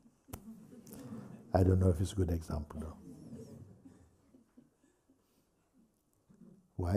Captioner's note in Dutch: gelach